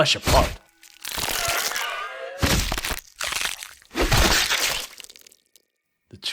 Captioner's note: sounds of creature getting killed